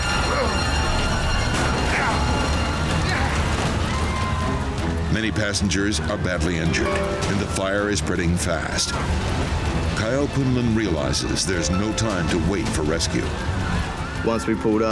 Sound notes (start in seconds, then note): 1.0 grunts